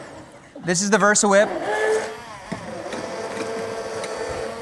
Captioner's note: grinding